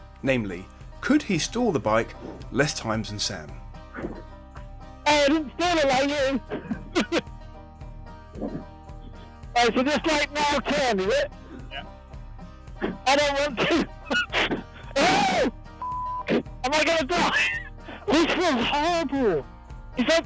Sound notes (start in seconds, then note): 8.9 laughs; 12.8 chuckles; 15.8 beep